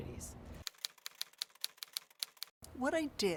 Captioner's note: letters clicking